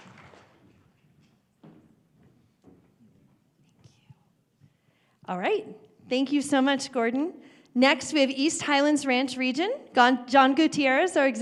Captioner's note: applause